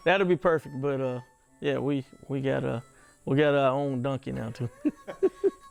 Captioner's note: laughing